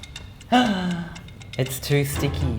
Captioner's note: shrieks